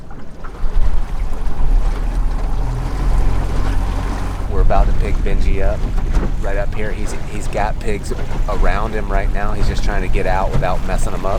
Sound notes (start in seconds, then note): 2.1 engine working